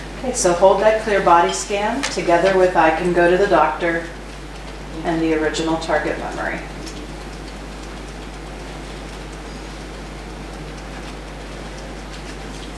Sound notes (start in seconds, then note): 7.9 tapping